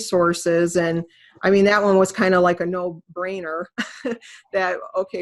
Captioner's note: chuckles